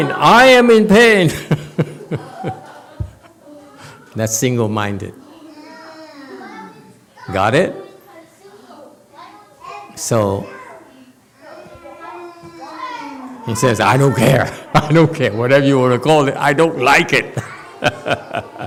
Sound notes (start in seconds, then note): 1.2 laughs; 17.8 laughs